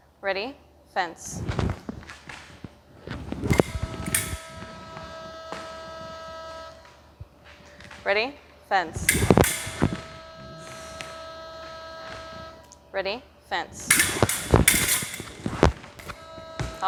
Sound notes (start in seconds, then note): 9.0 clicking; 13.8 clicking